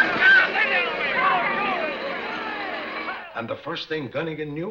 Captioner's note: yelling